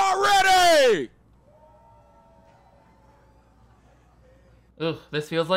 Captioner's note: audience cheers faintly